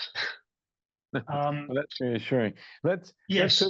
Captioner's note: chuckles